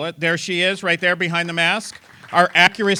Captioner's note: applause